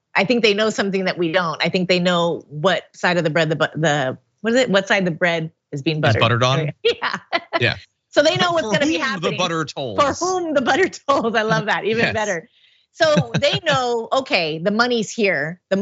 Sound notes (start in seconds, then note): 6.0 laugh